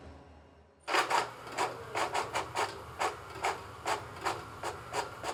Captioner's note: printer printing